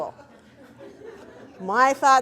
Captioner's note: audience laughs